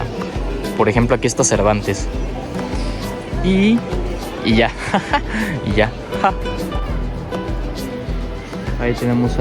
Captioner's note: laughter in Mexican